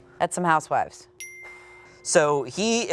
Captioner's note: wink dings